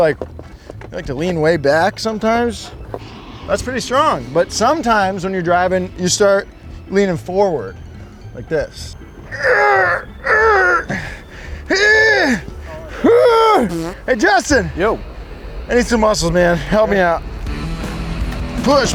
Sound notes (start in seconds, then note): 9.6 groans; 17.1 rock music